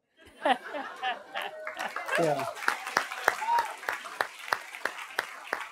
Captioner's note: laughter and applause